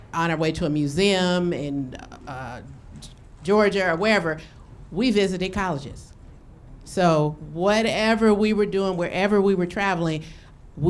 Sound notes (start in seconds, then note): none